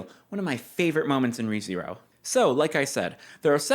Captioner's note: none